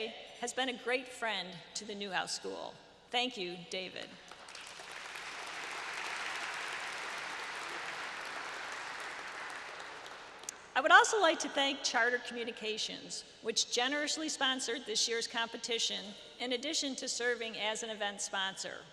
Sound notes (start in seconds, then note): 4.2 applause